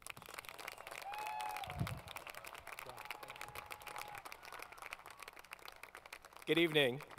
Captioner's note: applause